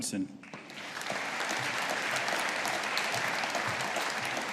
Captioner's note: audience applauding